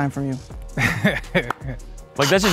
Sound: laughing

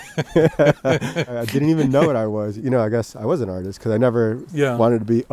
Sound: both laughing

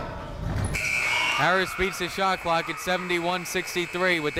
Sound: buzzer blares

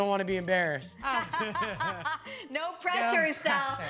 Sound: laughing

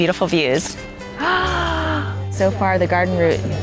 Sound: gasps

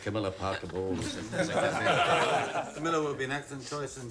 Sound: laughing

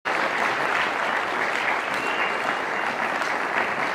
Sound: audience applauding

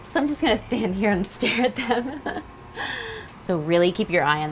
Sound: laughing

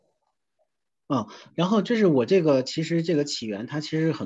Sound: Mandarin

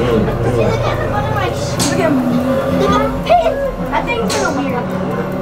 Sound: background chattering

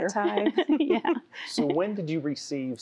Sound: giggling

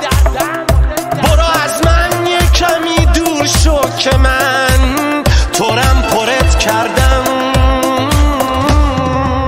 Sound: tired

